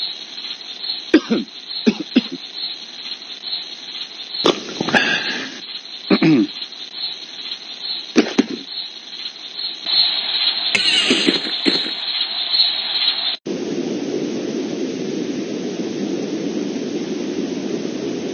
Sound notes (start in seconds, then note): 1.1 coughing; 3.8 slurping; 6.1 clears throat